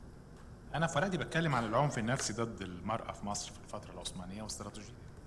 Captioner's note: speaking foreign language